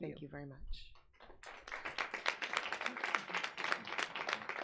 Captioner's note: audience applauds